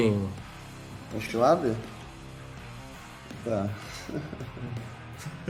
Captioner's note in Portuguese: riso